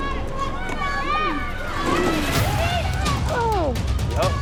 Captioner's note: dramatic music plays; everyone shouts